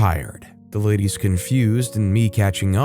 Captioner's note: confused